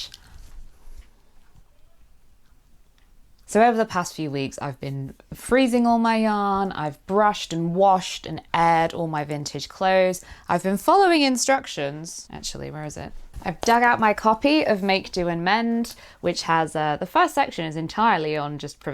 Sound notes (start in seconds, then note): 0.7 sighs